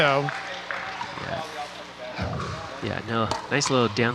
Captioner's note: people chattering